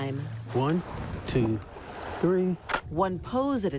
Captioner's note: camera clicks